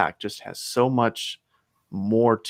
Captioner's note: none